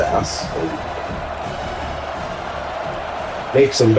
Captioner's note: crowd Noises